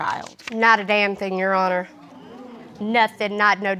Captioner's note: audience exclaiming